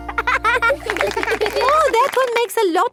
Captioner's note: laughing